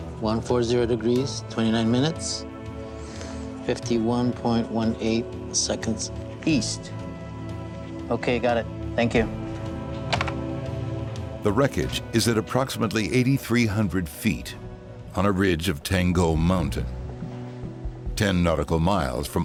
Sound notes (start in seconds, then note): 10.0 popping